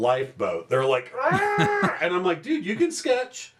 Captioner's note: sound effect